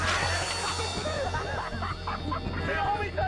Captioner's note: teenagers laughing and cheering; intense music